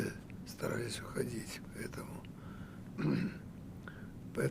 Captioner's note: clears throat